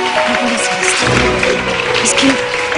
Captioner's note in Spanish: aplausos